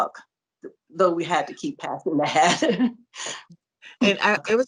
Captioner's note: laughter